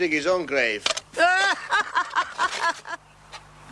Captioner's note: laughs